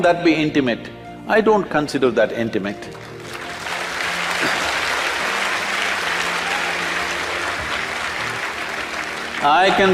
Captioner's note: applause